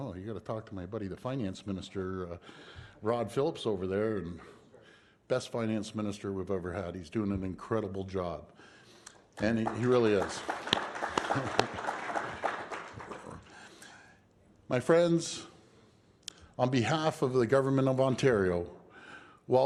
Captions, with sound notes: You have to talk to my body the finance minister Rod Phillips, best finance minister we have ever had. He is doing an incredible job. (Applause) my friends, on behalf of the government of Ontario